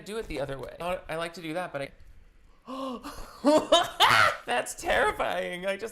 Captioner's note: laughs